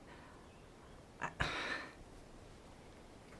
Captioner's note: sighs